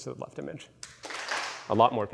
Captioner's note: claps